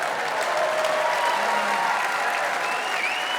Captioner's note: audience cheering, applauding